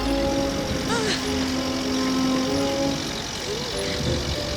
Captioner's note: heavy gasping